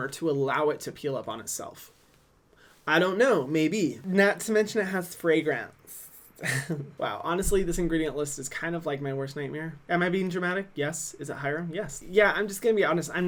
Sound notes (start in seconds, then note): 6.4 laughs